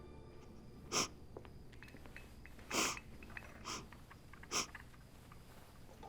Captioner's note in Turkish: Ağlama sesi